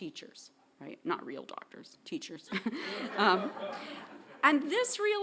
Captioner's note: chuckling